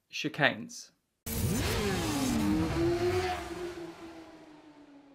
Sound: bike engine roaring

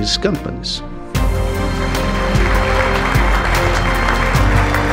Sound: applauding

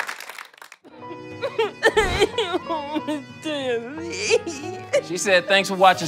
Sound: audience applause; sobbing and speaking indistinctly

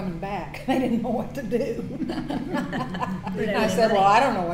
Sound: laughs

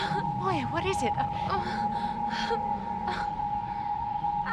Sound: moaning

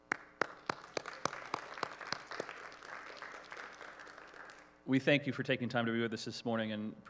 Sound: applause

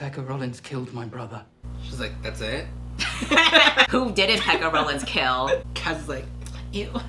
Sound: laughs

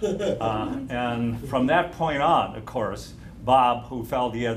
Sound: laughter

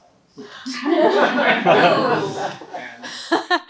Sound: everyone laughs

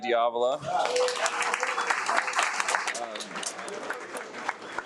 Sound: audience applauds

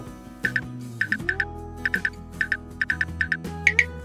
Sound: click sound, Filter code not found

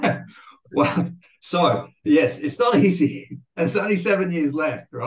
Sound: chuckles

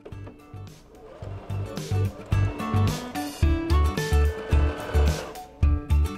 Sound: sewing machine whirring

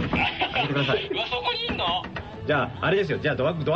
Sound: knocking

